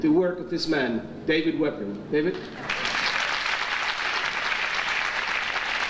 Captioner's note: audience applauding